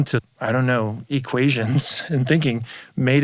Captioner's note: chuckles